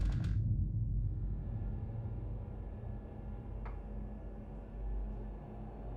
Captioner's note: floors creaking